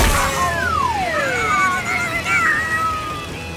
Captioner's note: screeching